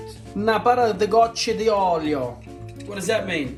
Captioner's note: speaking Italian